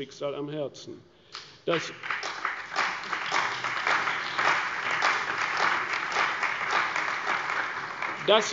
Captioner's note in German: Beifall bei der CDU und dem BÜNDNIS 90/DIE GRÜNEN